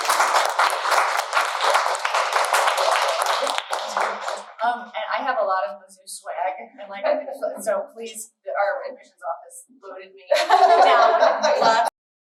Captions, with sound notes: [Applause] And I have a lot of Mizzou swag, so please, our admissions office loaded me down! [Laughter]